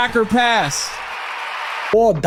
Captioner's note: crowd cheering